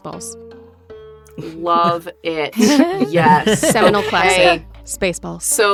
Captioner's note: EVERYONE chuckles